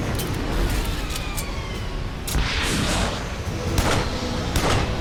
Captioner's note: dramatic orchestral music; gun cocking; gun blasting